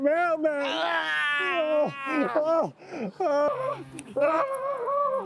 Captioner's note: whimpering